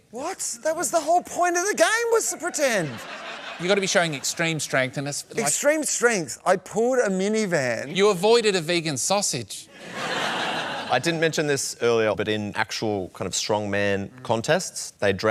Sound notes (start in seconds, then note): 9.7 laughter